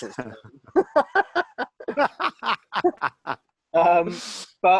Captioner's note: both laughing